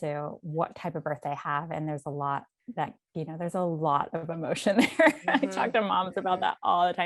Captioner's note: laughs